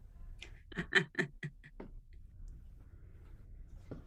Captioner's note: chuckles